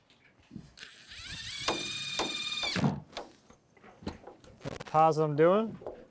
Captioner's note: drill running